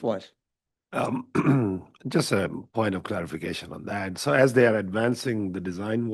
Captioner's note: clears throat